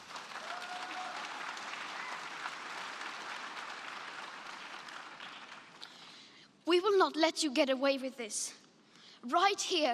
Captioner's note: applause